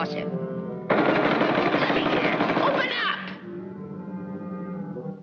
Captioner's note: fists pounding; suspenseful music